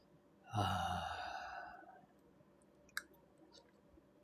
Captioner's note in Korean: 한숨